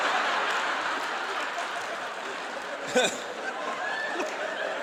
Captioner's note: audience laughing